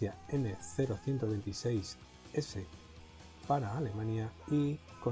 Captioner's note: german